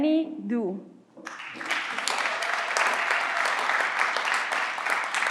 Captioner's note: everyone claps